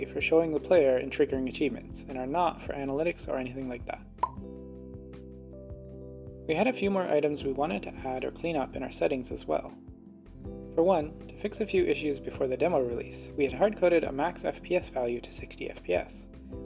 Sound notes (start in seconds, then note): 4.2 pop